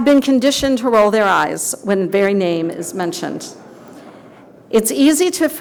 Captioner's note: audience laughter